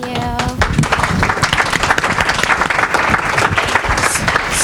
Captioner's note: audience clapping